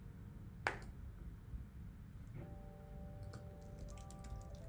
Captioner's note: typing continues